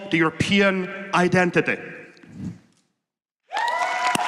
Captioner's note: applause